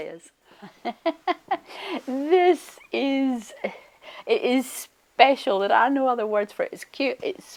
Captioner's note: laughs